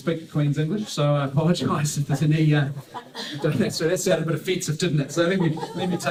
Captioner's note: laughter